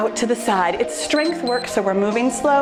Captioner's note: timer beeps